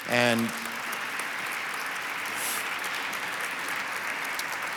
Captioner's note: audience applauds